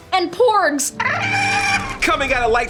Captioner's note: porg cry